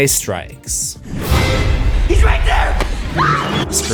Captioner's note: screams